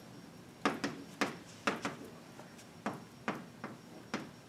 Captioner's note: chalk tapping